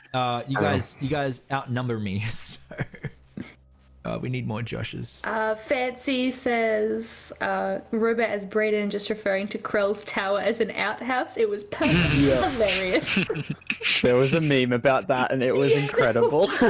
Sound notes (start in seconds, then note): 2.7 breathless laugh; 11.8 all agreeing snickers